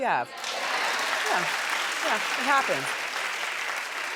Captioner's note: applauding